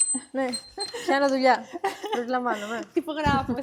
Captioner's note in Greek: γέλια